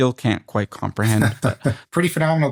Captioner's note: laughter